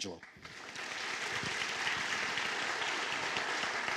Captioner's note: applause